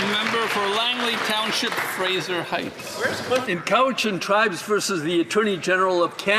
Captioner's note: some Applause